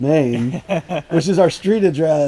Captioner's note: laughing